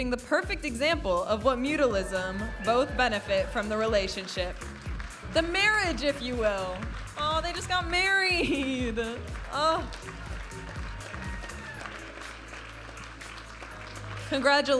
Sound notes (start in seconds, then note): 11.0 audience applauding and cheering; 12.9 vibrant music